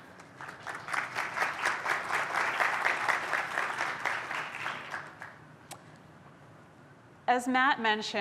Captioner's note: applause